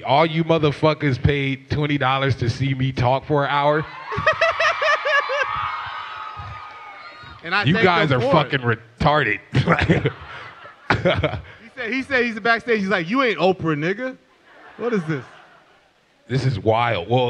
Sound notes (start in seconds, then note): 3.7 crowd cheering; 4.0 laughs